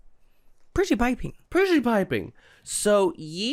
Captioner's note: both in posh British accents